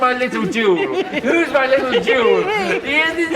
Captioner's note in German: kichernder